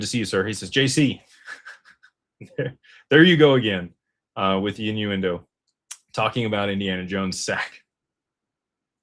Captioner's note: laughter